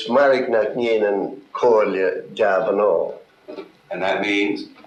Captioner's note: speaking gaelic